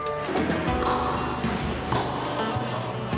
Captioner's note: thwacks